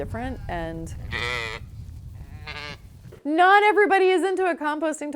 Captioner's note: sheep bleating